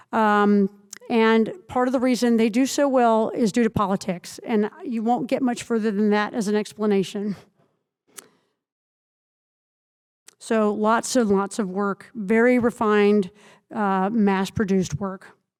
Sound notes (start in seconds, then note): none